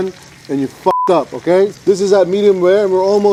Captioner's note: blips